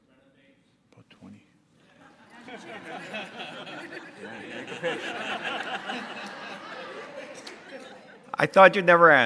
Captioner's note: audience laughter